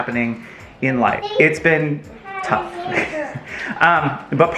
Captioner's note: chuckles